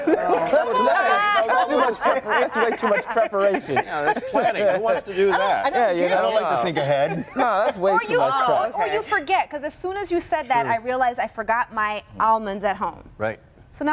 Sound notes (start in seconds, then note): 7.4 laughter